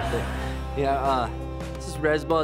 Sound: laughs

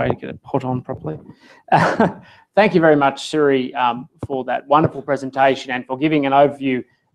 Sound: laugh

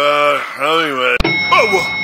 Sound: elevator ding

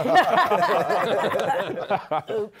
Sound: laughter; laughs

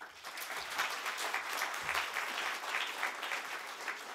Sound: applause

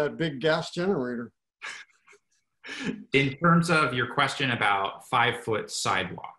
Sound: laugh

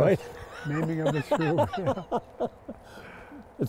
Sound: laughter

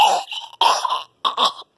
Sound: chokes??

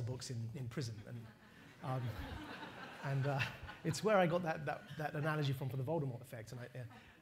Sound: laughter

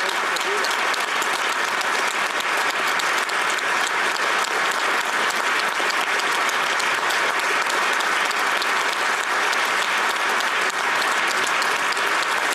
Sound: applause

